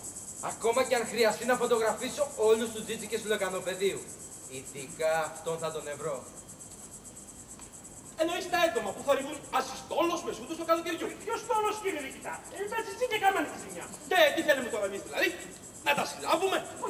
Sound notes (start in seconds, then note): 6.5 το τερέτισμα συνεχίζεται